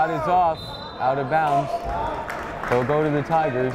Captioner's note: whistle blowing